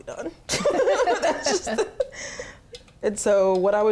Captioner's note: laughing; laughs